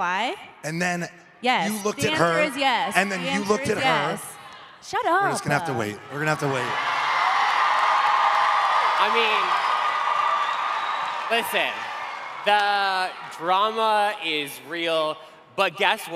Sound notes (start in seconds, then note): 7.4 cheering